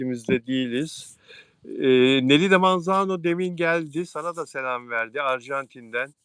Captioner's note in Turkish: homurdanır